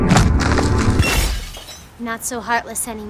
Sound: shattering

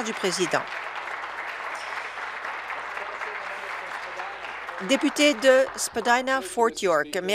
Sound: applause

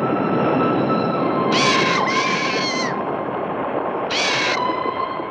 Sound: bird shrieking

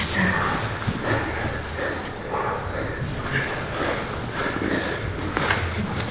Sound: breathing heavily

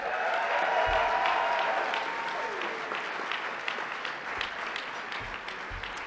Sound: applause

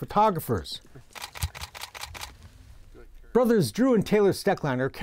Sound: clicking sounds

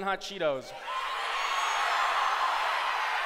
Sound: shouting

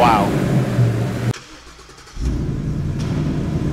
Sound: engine starts

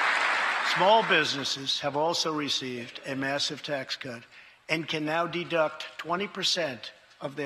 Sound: cheers and applause

